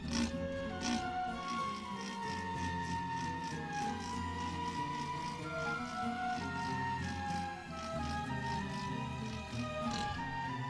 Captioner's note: sawing continues